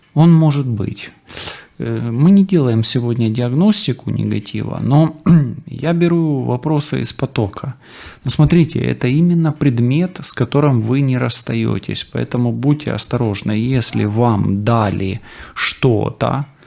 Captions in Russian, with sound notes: Он может быть [фыркает] мы не делаем сегодня диагностику негатива, но [откашливается] я беру вопросы из потока. Ну, смотрите, это именно предмет, с которым вы не расстаётесь. Поэтому будьте осторожны. Если вам дали что-то,